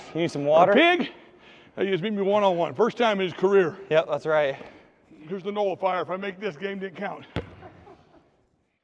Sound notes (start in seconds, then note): 7.4 laughter